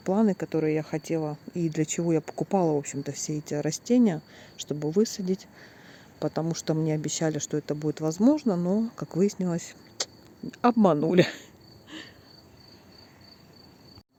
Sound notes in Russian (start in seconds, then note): 11.2 смех